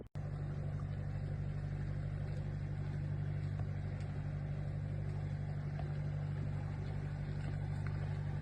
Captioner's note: canal boat engine noise